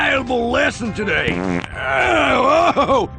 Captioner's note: fart